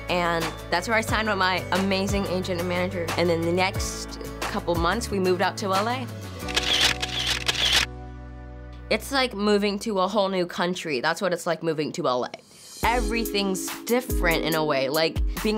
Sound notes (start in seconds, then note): 6.4 camera clicking; 14.0 chill R&B music